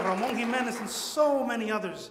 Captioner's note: audience applauds